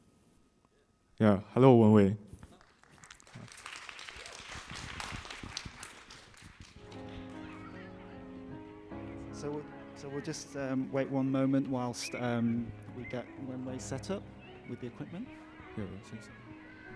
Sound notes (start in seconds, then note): 2.4 audience Clapping; 7.3 piano Music